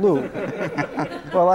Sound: laughter

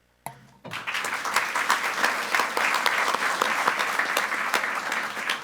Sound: group applauding

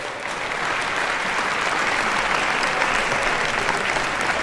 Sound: audience clapping

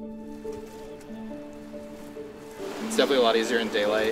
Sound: water splashing

